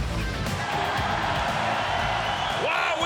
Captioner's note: crowd cheering